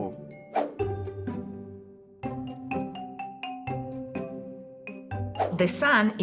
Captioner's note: gentle music; screen whooshing